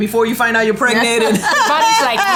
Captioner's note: laughing